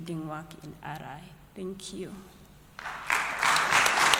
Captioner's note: applause